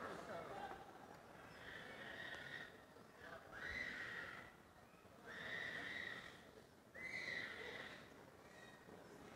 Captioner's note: background chatter